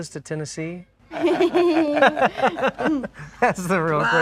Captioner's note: laughing